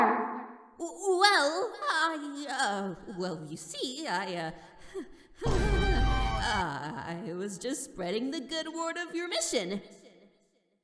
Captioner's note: nervous laugh